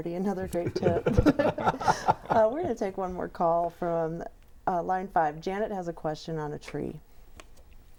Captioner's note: laughing